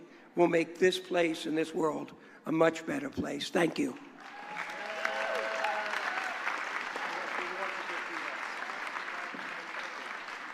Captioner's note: applause